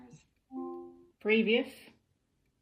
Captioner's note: device chimes